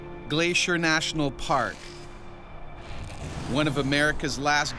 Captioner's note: voiceover